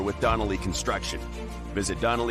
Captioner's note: none